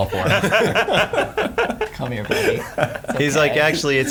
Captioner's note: laughing